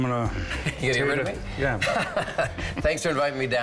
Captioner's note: laughs